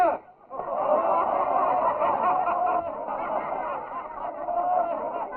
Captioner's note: all laughing